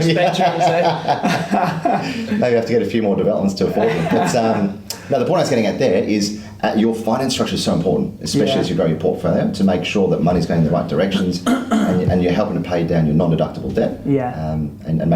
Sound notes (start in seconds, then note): 0.1 laughs; 3.7 laughs